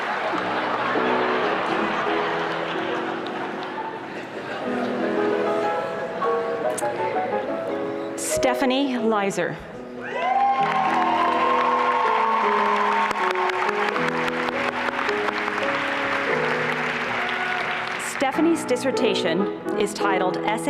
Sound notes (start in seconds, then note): 0.0 laughter; 10.0 applause and cheering